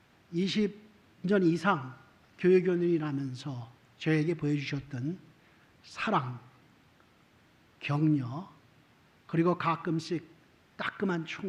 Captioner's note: speaking korean